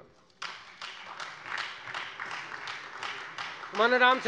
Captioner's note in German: Beifall